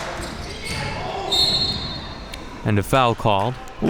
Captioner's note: whistle blowing